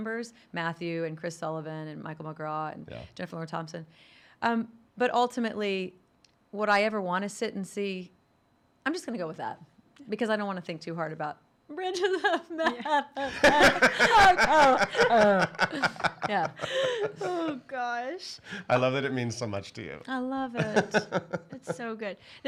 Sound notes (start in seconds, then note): 13.1 sobs; 15.6 laughs